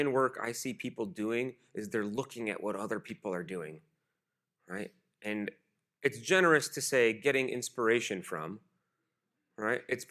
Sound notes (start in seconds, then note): none